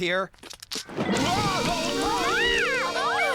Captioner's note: curtain Rustling